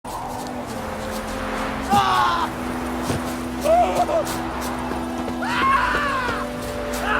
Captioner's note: character shouts in fear